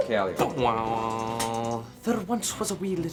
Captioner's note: Russell imitates instrument strumming